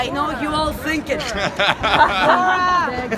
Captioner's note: laughter